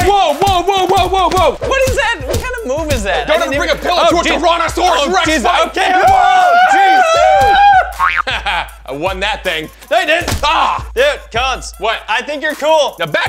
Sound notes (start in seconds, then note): 6.8 yelling